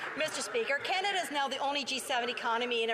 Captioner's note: some Applause